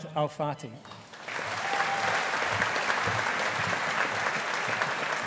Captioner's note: audience applauding